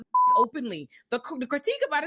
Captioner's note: beep